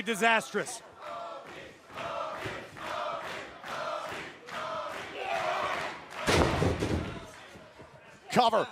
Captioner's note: crowd cheering